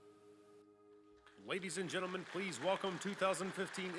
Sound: voiceover

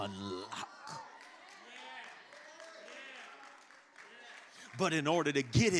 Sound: congregation cheering and clapping

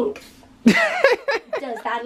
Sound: laughing

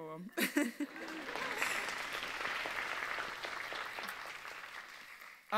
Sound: audience laughs and applauds

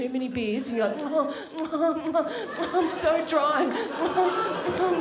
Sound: smacks lips

